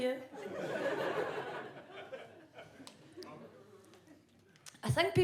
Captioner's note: audience laughs